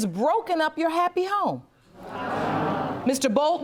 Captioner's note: audience murmuring